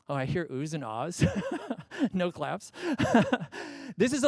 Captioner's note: laughs